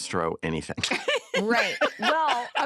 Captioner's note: laughter